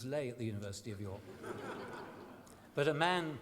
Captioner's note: laughter